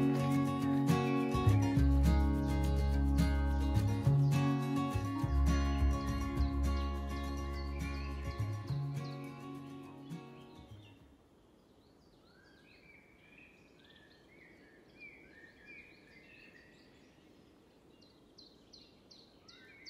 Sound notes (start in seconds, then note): 8.3 birds chirping, nature sounds